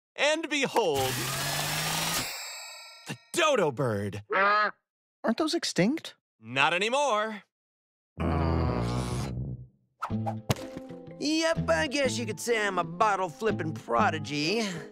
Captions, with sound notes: And, behold! [whirring] A dodo bird! - [squawks] - Aren't those extinct? - Not anymore! - [grumbles] - Yep, I guess you could say I'm a bottle flipping prodigy.